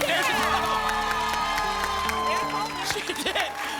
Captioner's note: cheering and applause